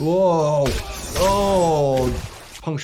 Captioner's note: fighters yelling; blood splatting